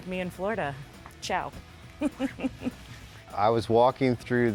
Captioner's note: giggles